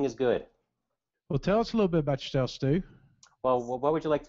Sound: voiceover

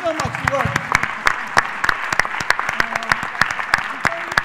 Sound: applause

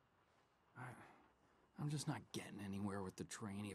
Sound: sighs

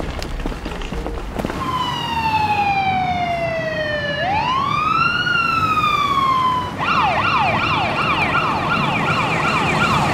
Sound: sound of siren

